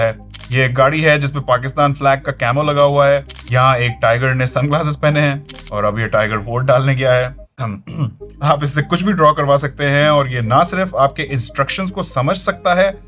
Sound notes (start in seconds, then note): 7.8 coughs sarcastically